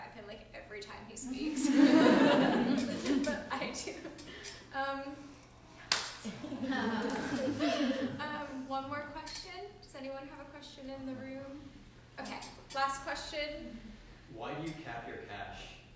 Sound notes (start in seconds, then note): 5.8 clap